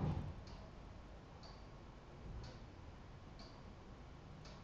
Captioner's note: clock ticking